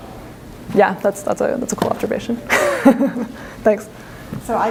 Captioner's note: laughs